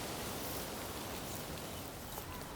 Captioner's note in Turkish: Kuş sesleri